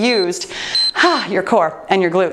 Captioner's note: timer beeps